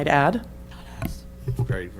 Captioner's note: whispering